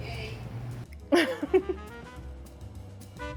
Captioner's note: chuckles